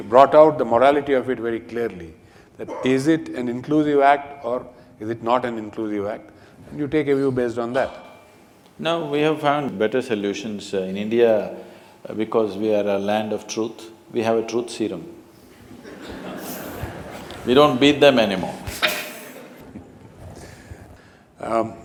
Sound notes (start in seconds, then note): 15.6 laughter